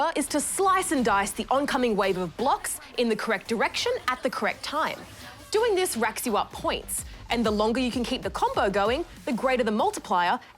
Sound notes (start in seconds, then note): none